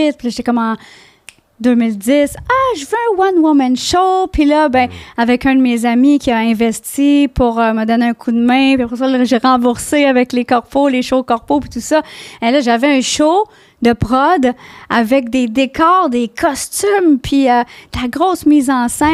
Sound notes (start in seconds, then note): 0.2 in french